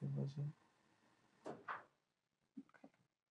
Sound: creeking from the room

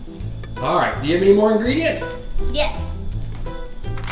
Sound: voiceover

